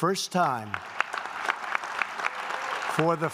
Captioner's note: applause